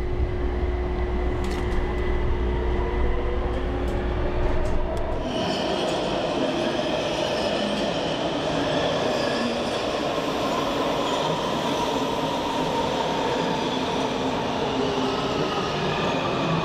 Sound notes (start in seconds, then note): 0.8 metro train accelerating; 5.2 train brakes